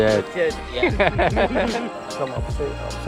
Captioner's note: laughing